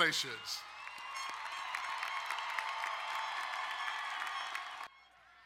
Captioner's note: crowd cheering and applauding